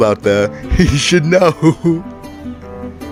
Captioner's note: laughs